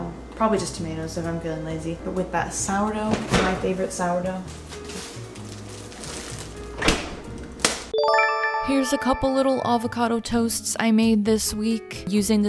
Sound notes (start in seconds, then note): 4.6 fridge open and closes; 8.0 chime